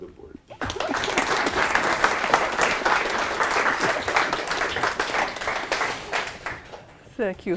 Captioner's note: applause